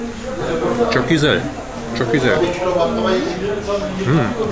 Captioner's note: Turkish